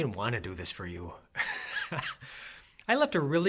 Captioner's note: laughs